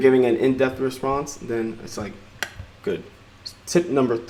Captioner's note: clicks